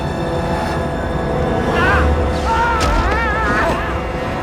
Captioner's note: yells